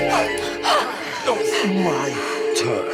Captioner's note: suspenseful music; Maddie panting